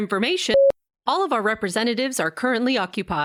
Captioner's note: beep